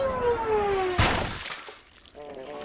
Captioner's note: splat